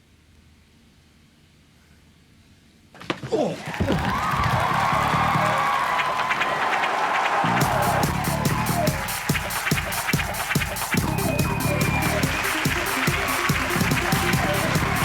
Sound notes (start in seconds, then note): 4.2 audience cheering; 7.3 electronic dance music; 7.5 audience applauding